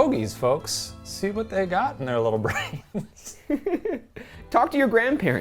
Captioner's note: laughing